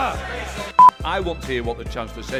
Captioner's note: crowd yelling; beep